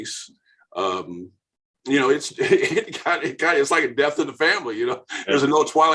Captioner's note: laughing